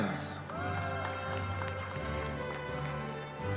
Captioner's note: cheering